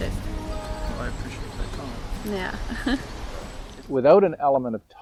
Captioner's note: laughing